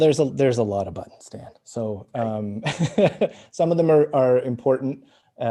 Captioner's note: laughs